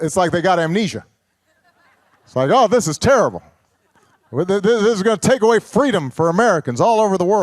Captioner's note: laughter